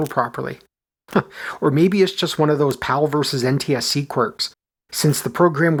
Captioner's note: chuckles